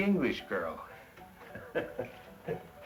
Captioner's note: laughs